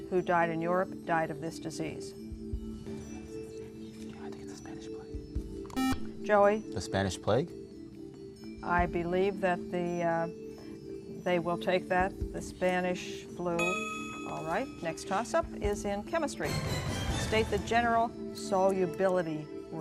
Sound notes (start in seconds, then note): 2.5 whispering